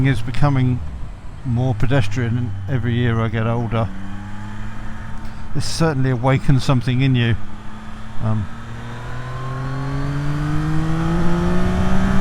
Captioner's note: engine roar